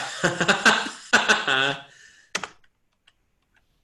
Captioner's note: laughs